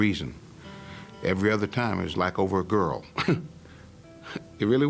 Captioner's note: laughing